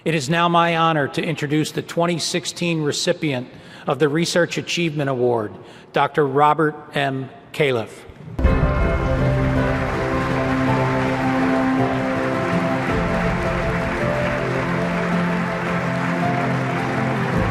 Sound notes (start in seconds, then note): 8.4 audience applauding; 8.4 upbeat music